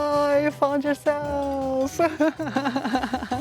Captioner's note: laughs